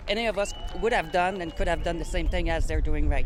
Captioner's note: cheers and Applause